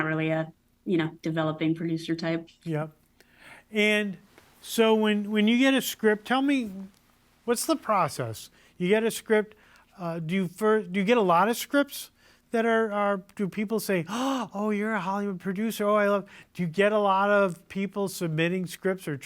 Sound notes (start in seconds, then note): 14.0 gasps